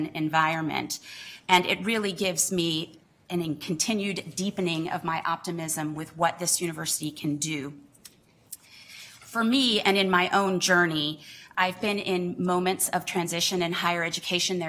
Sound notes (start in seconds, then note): none